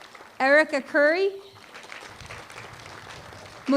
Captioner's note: applause